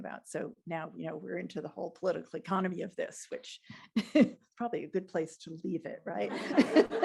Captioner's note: laughter